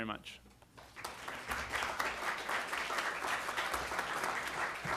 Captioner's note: applause